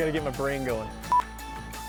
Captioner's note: beep